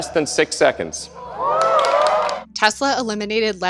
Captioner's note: audience cheers